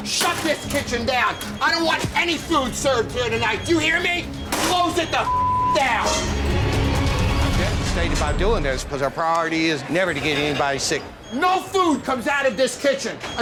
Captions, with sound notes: Shut this kitchen down! I don't want any food served here tonight, do you hear me? Close it the (beep) down! (dramatic suspenseful music) - Just ashamed about doing this because our priority is never to get anybody sick. - No food comes out of this kitchen